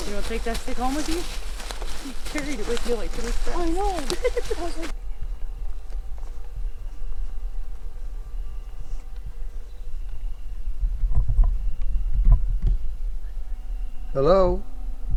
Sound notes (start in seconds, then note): 3.2 laughing; 5.5 insects chirping